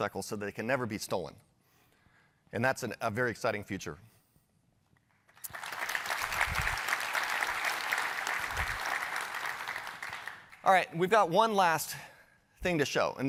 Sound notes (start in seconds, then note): 5.2 applause